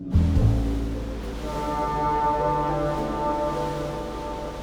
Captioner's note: horn blares; light jazz music